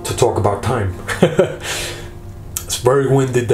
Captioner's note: laughing